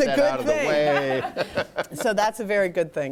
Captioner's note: laughter